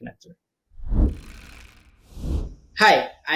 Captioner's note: whooshing